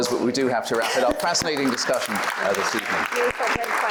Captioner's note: applause